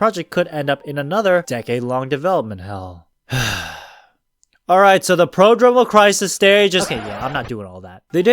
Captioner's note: sigh